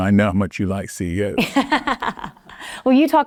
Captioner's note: laughing